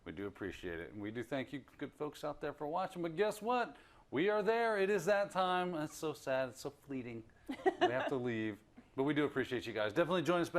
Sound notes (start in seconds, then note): 7.5 laugh